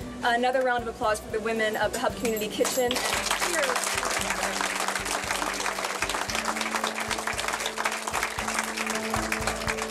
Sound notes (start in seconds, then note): 2.7 audience clapping; 3.7 light bright music